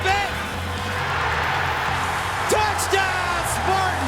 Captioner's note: crowd cheering